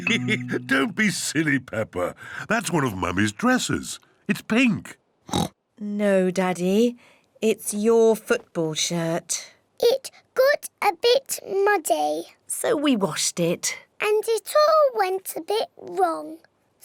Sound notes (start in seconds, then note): 0.0 laughs; 5.3 oinks